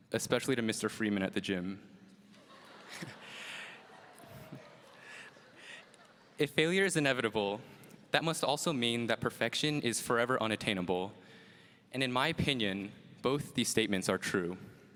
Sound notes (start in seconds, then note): 2.2 audience laughs; 2.7 chuckles